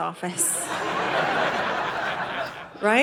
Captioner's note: audience laughing